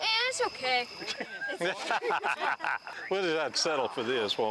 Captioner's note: all laughing